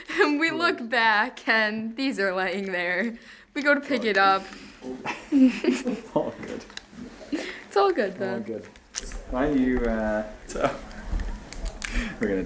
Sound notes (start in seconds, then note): 4.8 laughing